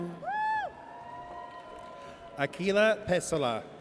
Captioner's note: audience cheers